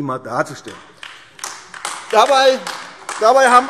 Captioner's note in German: Beifall AfD - Zurufe BÜNDNIS 90/DIE GRÜNEN